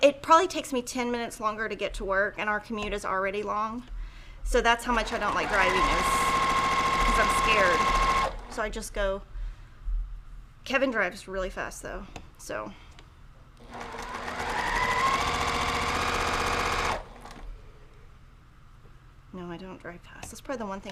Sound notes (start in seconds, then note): 4.9 sewing machine roaring